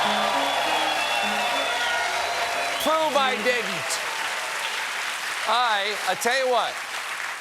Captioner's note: cheers and applause